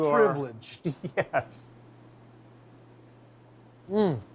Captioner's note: chuckles